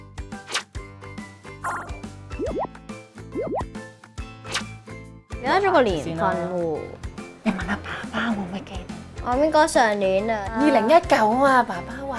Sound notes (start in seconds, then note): 0.4 swishing sound; 2.4 bubbling sound